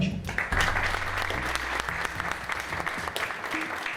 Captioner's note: applause